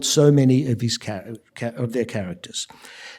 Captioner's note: none